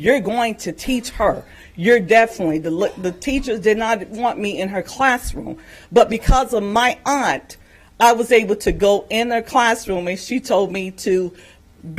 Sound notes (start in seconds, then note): none